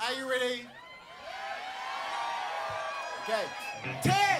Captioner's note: cheers